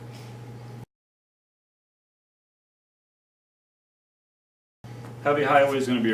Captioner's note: silence